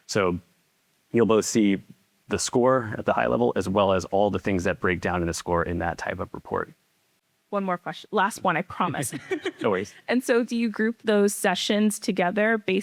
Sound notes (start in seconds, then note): 8.8 chuckles